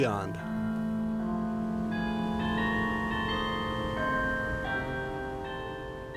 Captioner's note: cathedral bells ringing